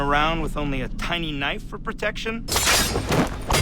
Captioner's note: slashing